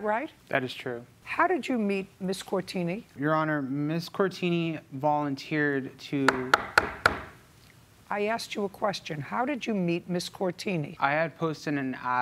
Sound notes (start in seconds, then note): 6.2 gavel bangs